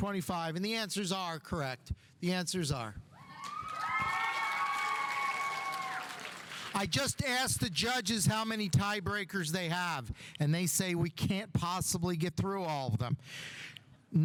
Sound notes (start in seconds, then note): 3.2 audience cheering; 3.3 audience applauding